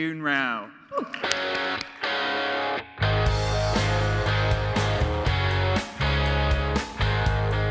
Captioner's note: claps; galvanizing music